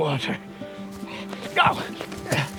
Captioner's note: yells